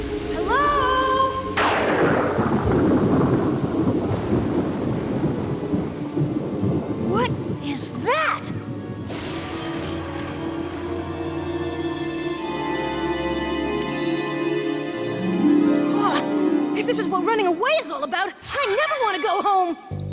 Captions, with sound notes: Hello?! [ Thunder crashes ] What is that?! [ Twinkling ] Wow! If this is what running away is all about, I never want to go home!